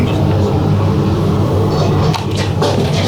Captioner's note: scraping noise